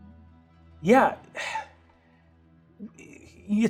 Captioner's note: sighing